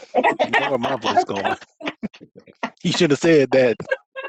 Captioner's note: laughs